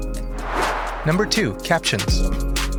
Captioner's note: chill electronica continues; whoosh